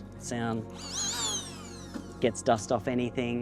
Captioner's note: blower whirring